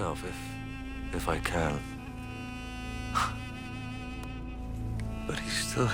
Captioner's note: laughs